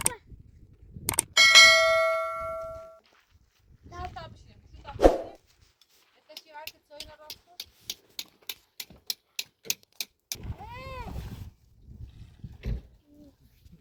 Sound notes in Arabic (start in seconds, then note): 1.4 جرس